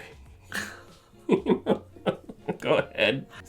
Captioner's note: laughter